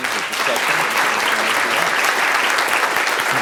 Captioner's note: applause